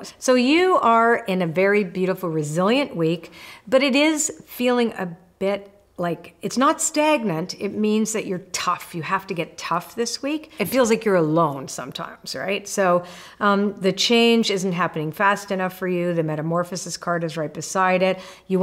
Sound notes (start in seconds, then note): none